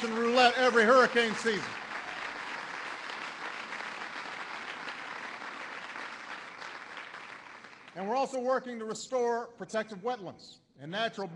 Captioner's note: applause